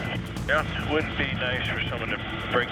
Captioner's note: man On Radio